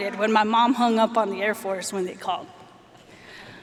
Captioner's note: none